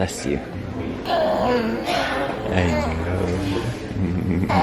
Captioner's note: baby grunting